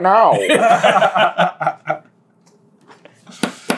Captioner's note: laughter